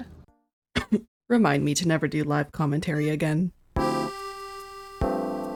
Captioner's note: cough